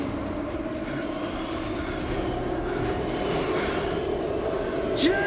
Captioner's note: dramatic music; panting